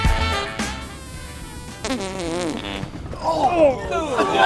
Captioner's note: farting